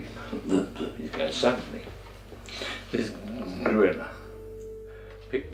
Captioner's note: gorilla noises